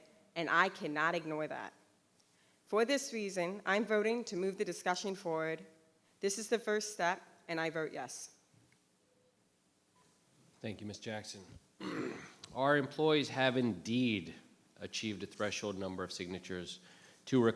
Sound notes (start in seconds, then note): 11.8 clears throat